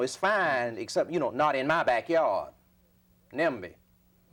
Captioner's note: audio blurs